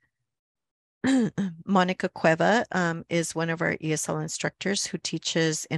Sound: clears throat

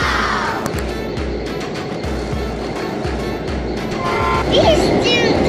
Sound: train sounds and music

